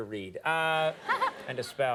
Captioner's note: audience laughing